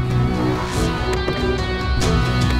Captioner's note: Car door opens